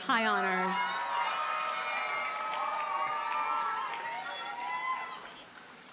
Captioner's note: audience cheers and applauds